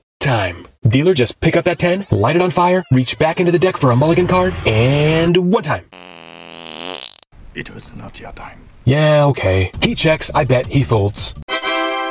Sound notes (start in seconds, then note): 5.9 fart